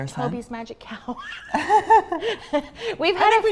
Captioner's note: both laughing